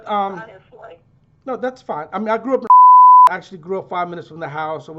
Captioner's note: beep